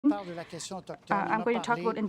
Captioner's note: speaking French